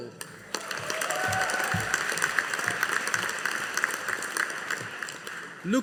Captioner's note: audience applauding